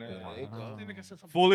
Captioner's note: speaking In Foreign Language